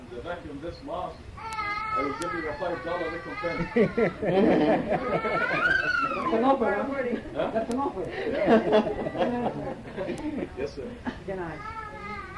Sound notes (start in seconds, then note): 0.0 audience member speaking in foreign language; 0.2 audience laughing; 6.2 speaking in foreign language; 10.2 audience laughing